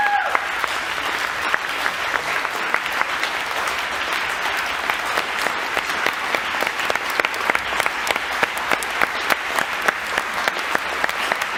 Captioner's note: applause